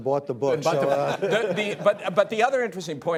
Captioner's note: laughter